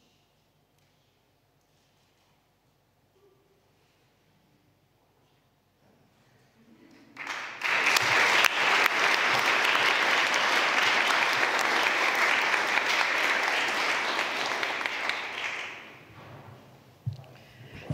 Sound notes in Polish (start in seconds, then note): 7.0 oklaski